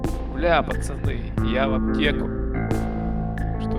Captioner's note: none